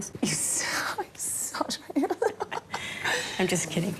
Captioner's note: laughs